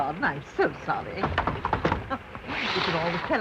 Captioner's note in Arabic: يغلق الباب بصوت عالٍ